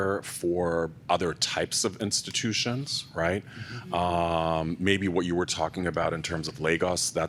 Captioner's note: none